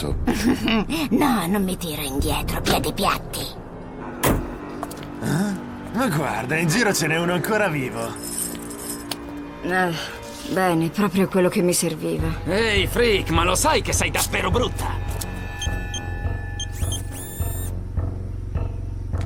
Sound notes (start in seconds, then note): 0.3 laughs; 8.1 chain rattling; 16.4 goggles beeping